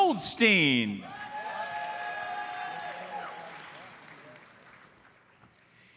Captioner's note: audience cheers and applauds